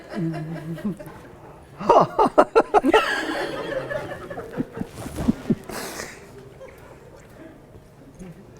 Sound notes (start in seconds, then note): 1.8 laughs